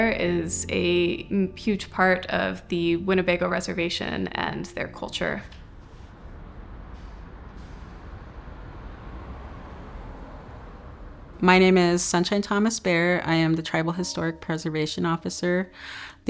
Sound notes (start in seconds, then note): 5.5 car whooshing